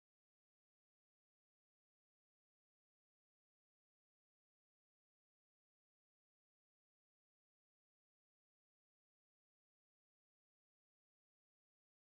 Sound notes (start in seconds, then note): none